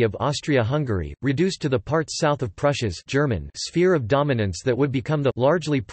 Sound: German

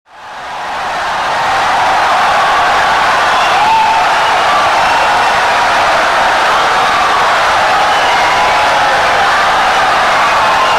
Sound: wild applause and cheering for 17 seconds

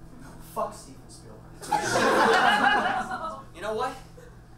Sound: audience laughs

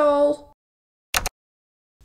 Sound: click!

